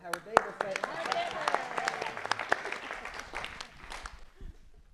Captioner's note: applause